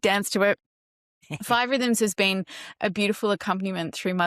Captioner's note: laughs